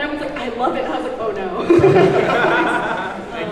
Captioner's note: laughs